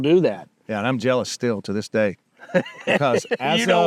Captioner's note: laughing